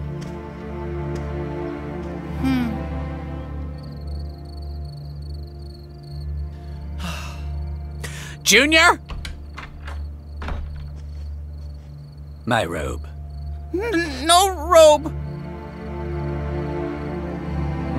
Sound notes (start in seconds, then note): 0.1 somber dramatic music; 2.4 Junior sighs; 3.9 crickets chirping; 6.9 sighs; 8.5 door opens and closes; 13.9 grunts; 15.2 dramatic music